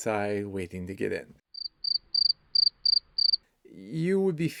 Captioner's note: crickets